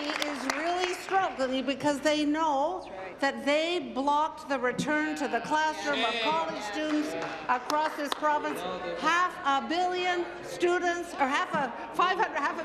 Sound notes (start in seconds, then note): 1.8 applause